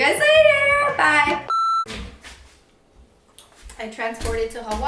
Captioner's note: beep